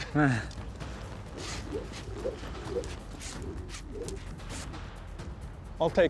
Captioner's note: rope swirling, whooshing